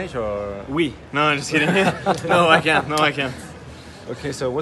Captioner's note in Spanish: risas